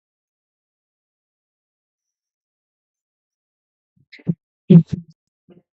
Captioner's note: silence